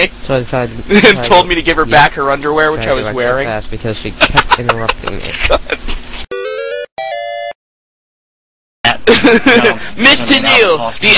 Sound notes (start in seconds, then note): 4.2 laughs